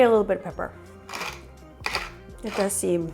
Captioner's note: pepper mill grinds